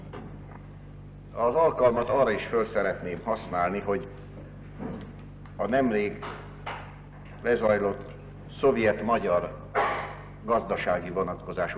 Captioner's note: sound error